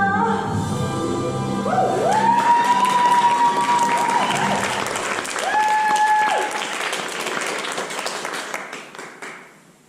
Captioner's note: applause